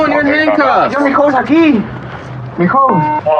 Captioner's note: spepeakaking g spspanis